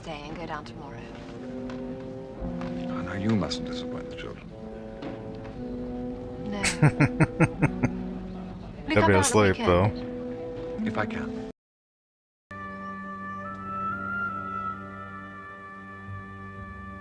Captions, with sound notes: [Chuckling] They'll be asleep though.